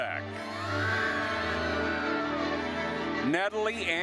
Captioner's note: attendees cheering